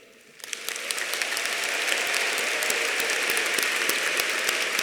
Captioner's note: audience applauding